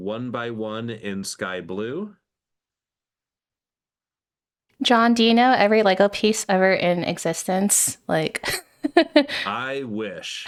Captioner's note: laughs